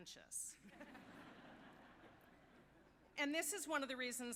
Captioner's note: audience laughing